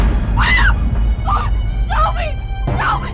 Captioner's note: Nellie screams